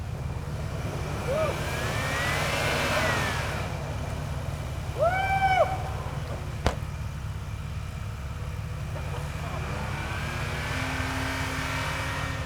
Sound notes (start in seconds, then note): 0.8 tires spinning